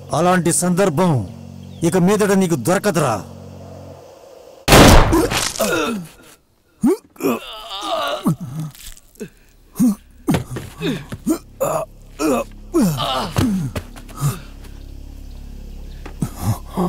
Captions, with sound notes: You won't get that chance again. (Gunshot) (Groans)